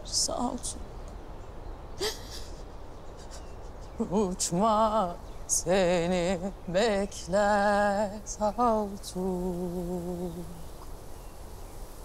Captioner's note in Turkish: Ağlayarak; Rüzgar ve kuş sesleri